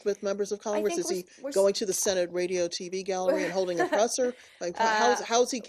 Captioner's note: laughter